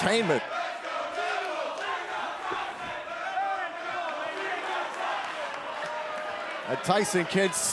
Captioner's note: crowd cheering